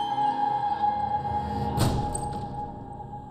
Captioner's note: clunk